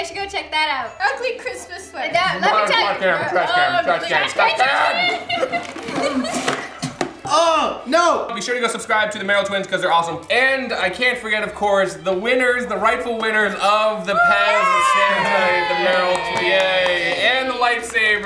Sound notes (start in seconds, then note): 6.0 spitting; 14.1 cheering